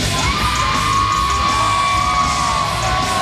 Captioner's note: cheers